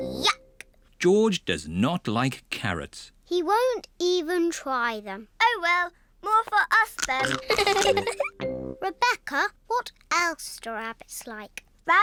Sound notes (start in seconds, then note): 7.3 giggles